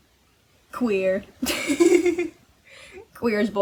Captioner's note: laughs